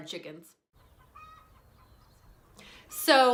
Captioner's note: chicken clucking